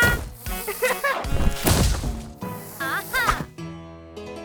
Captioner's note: Isabella shouts; Esme laughs; thuds